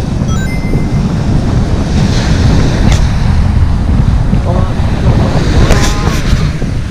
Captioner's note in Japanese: feat.福岡の海風の音